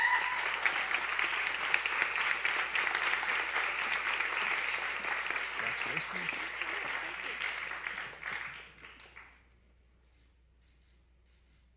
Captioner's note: applause